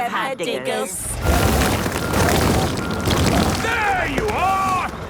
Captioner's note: rock crumbling